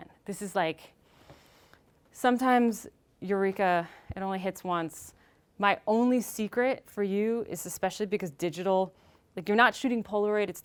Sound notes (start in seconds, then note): none